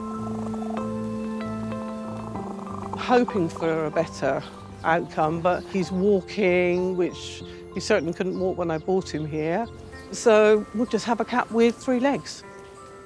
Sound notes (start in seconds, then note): 0.1 calm music; 2.2 cat purring